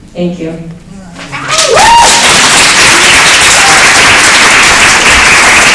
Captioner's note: cheering